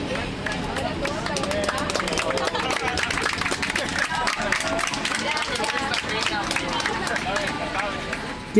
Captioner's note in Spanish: aplausos de los pasajeros